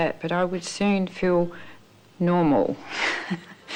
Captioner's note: laughs